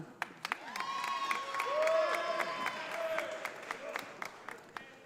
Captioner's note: audience applauding